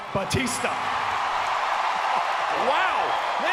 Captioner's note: crowd cheering